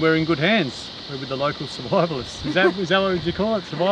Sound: laughing

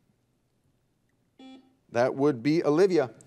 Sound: buzzer dings

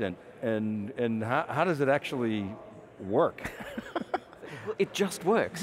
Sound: he laughs

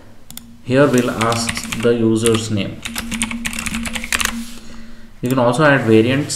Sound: Keychron K8 Typing - Rejoice

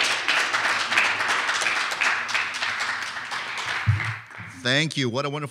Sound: clapping

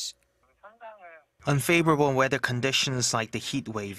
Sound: Korean

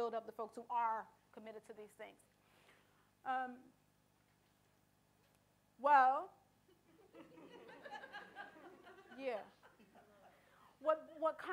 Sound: audience laughter

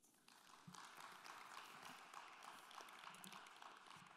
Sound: applause

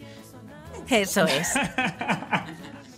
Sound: laughs

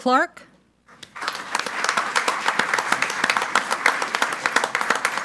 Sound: group applauding

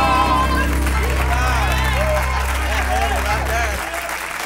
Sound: cheers and applause

